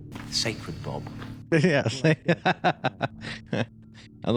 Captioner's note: laughs; laughs harder